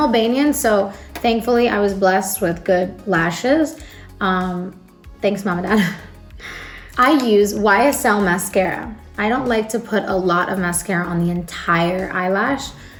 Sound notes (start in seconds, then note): 6.3 chuckles